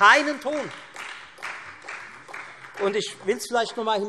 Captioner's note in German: Beifall Freie Demokraten und vereinzelt AfD